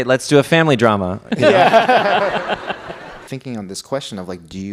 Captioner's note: laughs; audience laughs